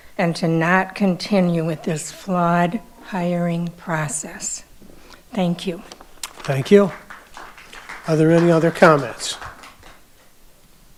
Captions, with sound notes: and to not continue with this flawed hiring process. Thank you. - Thank you. (audience applauding) Are there any other comments?